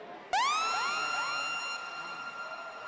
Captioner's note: siren